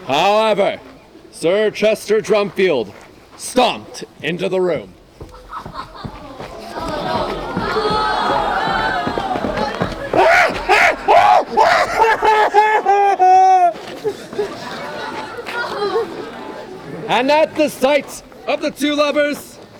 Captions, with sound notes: However, Sir Chester Drumfield stomped into the room. (audience gasps) (yelling) And at the sight of the two lovers,